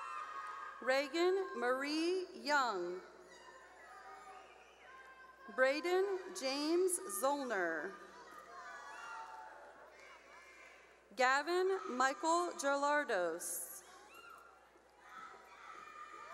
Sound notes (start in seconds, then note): 0.0 cheering; 3.7 cheering; 7.8 cheering; 13.8 cheering